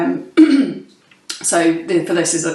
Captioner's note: clears throat